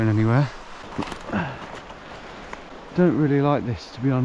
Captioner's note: grunts